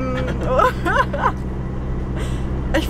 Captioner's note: laughting